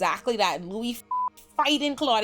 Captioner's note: beep